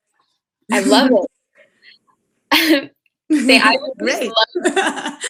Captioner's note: laughs